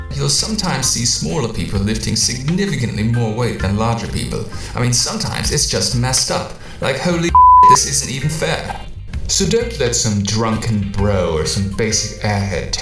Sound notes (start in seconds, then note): 7.3 beep